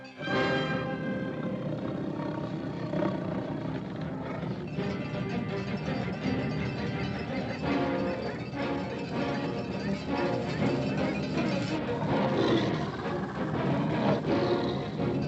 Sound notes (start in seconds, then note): 0.1 tiger growling; 4.6 dramatic music; 4.6 pounding hooves; 11.7 dramatic music; 11.7 tiger growling; 15.1 dramatic music; 15.1 pounding hooves